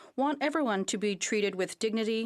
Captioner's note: speaking French